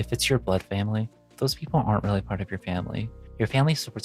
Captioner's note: none